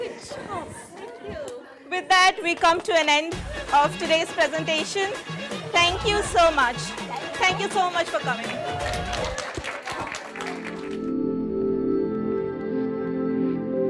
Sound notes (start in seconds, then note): 8.1 audience applause; 10.2 bright music